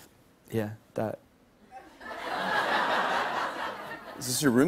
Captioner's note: laughter